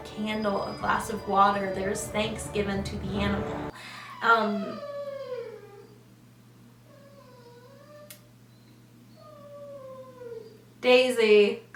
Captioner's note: long dog whine; whining continues